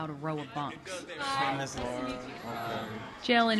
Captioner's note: chatter